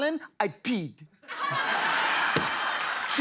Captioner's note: laughter